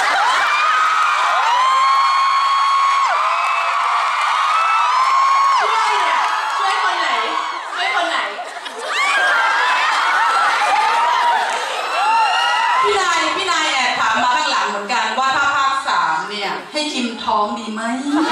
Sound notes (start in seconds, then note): 0.1 scream